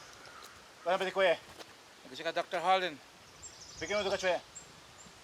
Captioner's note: speaking mayan